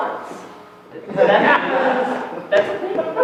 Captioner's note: laughter